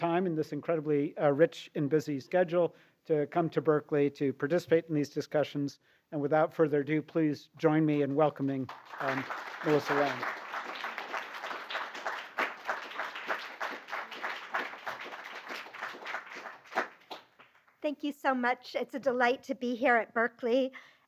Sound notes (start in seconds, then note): 10.8 applause